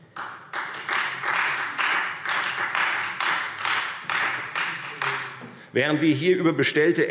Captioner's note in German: Beifall Freie Demokraten